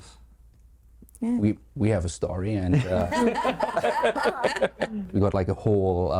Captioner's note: laughing